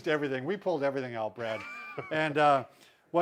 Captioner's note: laughs